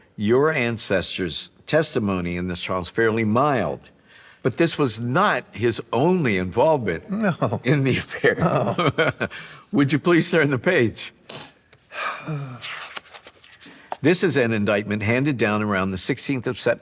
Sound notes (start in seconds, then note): 7.1 chuckling; 11.9 sighs